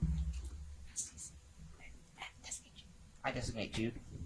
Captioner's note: contestants whispering quietly